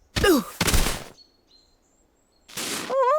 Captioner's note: groans